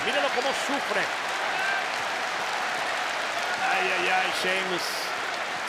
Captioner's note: applause